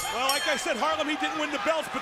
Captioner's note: bell ringing